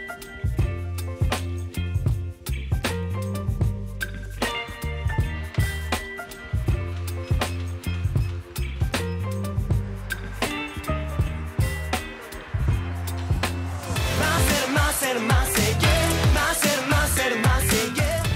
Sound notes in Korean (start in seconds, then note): 9.4 스윽